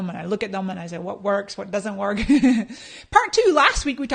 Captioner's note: laughs